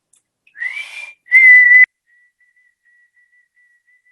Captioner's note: whistling